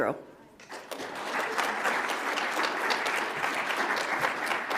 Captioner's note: audience applauds